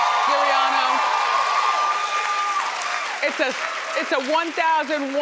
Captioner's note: audience cheering